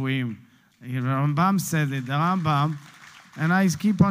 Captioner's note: Hebrew; Hebrew